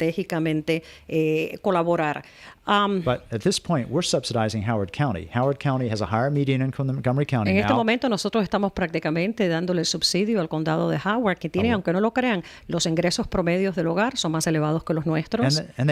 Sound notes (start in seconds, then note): 5.9 Hablando ingl\s